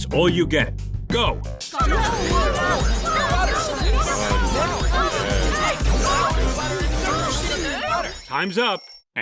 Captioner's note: screaming and muffled voices; timer ding